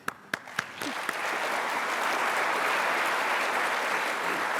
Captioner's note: applause